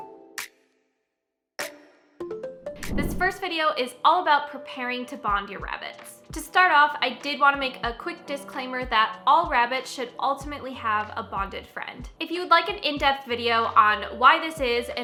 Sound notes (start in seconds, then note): 2.8 whooshing